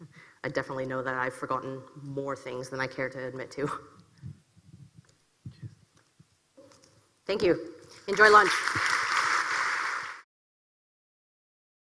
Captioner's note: applause